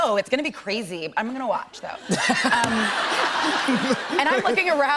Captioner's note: laughter